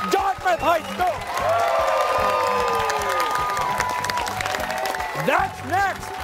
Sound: cheers and applause

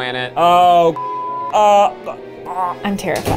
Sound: beep; gags

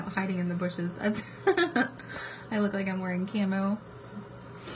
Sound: laughs

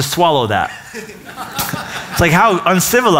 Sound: laughter

